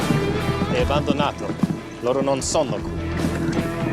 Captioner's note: in Italian